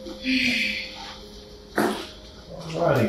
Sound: Kate sighs

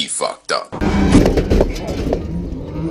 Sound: crash

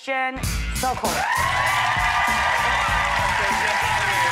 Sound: audience cheers

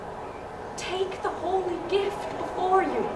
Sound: none

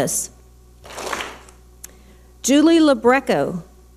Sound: clap smack

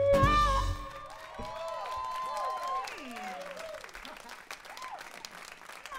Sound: applause

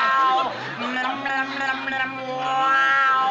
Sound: Lucy humming

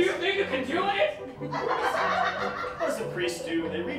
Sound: laughter

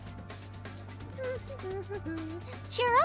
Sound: humming

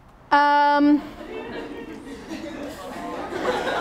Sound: attendees laugh

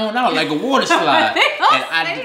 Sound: laughing

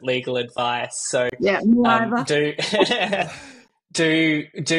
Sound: laughing

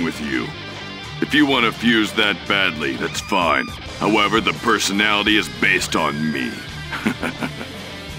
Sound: chuckle

